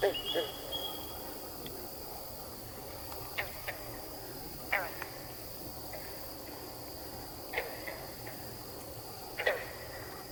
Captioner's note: katydids forest sounds